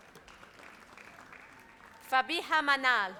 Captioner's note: audience applauds